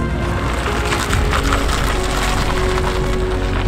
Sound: tires crunching

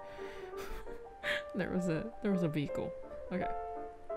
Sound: laughs

